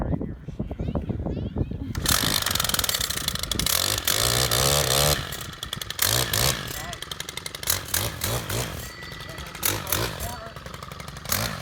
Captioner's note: machine whirring